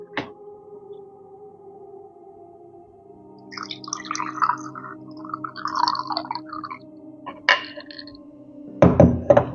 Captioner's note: pouring drink into glass